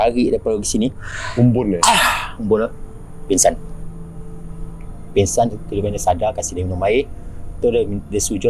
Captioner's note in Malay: mengeluh